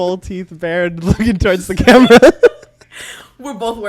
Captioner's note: both laugh